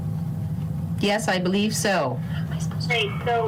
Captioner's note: whispering